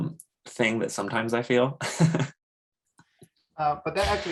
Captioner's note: laughs